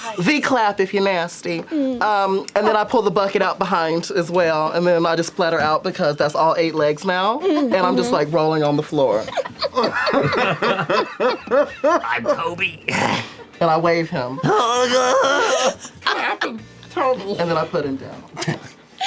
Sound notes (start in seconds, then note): 9.2 laughter; 14.5 screams